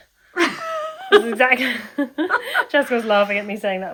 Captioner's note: laughs